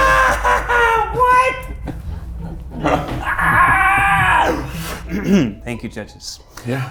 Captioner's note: screams; screams